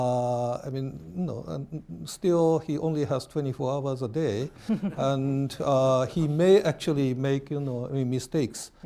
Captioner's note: laughter